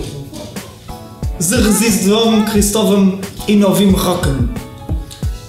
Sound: Ukranian

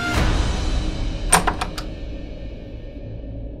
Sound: door opens

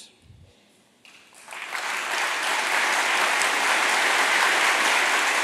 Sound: applause

